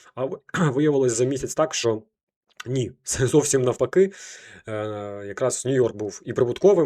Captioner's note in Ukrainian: прочищення горла